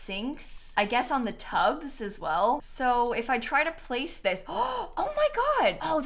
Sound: gasps

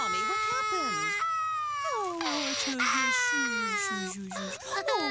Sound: talking baby talk

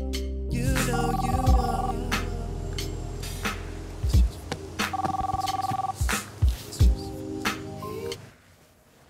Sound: phone rings

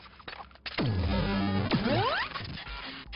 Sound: loud zapping

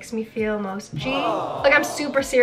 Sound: audience awing

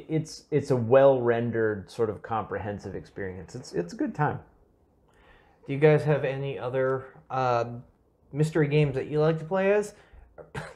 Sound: giggle

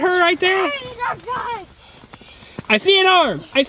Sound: yelling

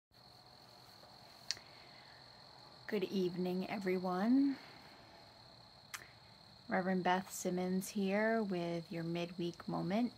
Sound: crickets in background throughout video

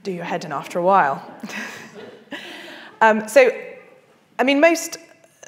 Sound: everyone laughing

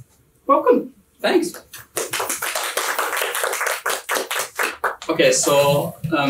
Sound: clapping

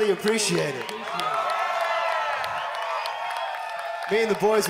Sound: audience cheers

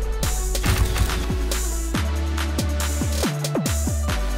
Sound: cameras shuttering

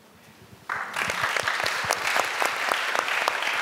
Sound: applause

